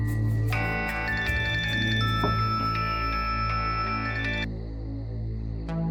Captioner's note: phone ringing